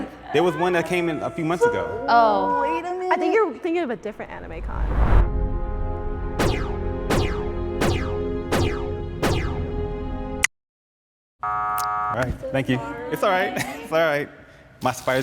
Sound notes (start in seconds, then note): 4.0 woosh; 5.9 dramatic music; 11.4 buzzer; 11.8 click